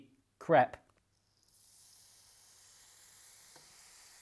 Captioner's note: sizzling